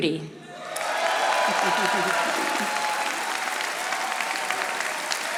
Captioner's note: audience applauding